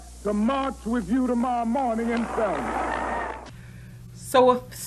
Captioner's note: applause